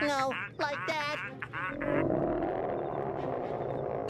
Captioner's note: growls